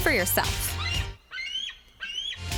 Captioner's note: eagle screeching